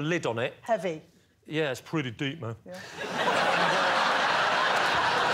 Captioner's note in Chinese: 笑声